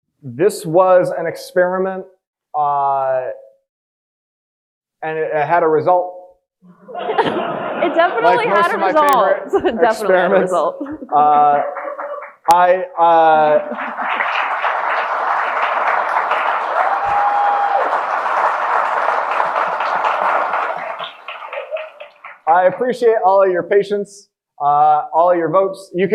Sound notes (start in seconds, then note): 6.7 audience laughing; 13.0 audience applauding and cheering